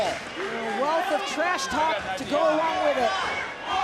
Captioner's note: audience cheering